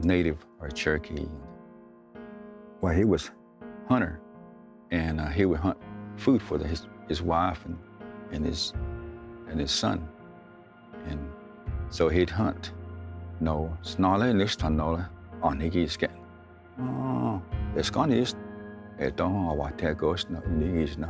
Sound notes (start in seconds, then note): 13.3 speaks Cherokee language; 20.5 tells story in Cherokee language